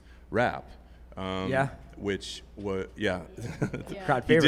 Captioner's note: laughs